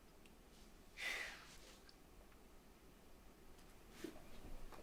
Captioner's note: Lily sighing